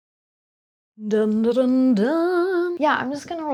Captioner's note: humming